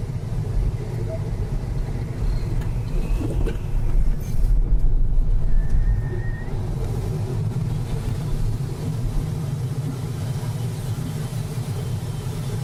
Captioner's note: wind noise increases and decreases and wind whistling